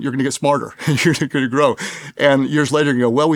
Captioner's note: laughs